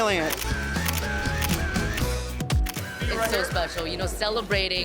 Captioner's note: camera snapping